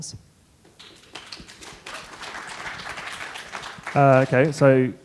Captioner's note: clapping